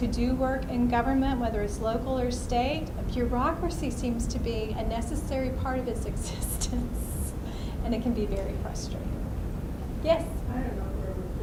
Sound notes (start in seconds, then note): 7.4 laughs